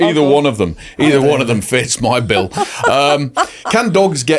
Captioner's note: chuckling